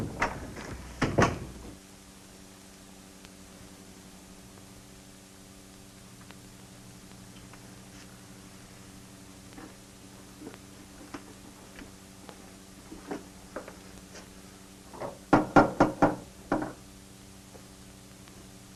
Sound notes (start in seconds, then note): 15.3 knocking